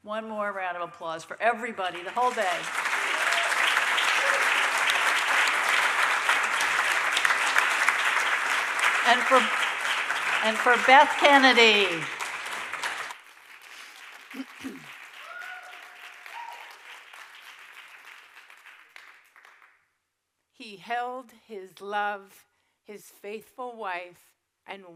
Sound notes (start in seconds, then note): 3.9 audience applauding